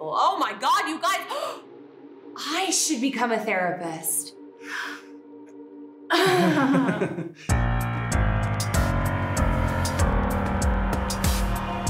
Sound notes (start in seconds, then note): 1.9 gasps; 4.6 Pam gasps; 4.7 man gasps; 6.1 Pam chuckles; 6.1 man chuckles; 8.0 tense, mysterious music